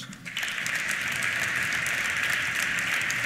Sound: applause

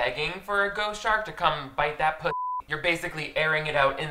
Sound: beeps

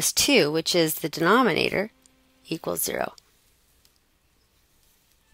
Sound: pause in Lecture

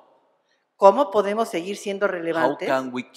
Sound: speaking spanish

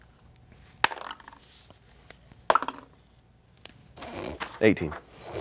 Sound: dice clatters

